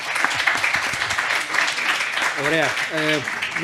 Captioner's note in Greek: χειροκρότημα